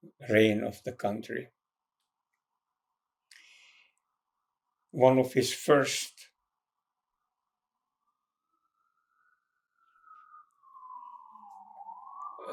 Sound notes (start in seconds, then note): 6.3 pauses 6 seconds; 9.3 sirens